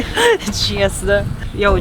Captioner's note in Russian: смех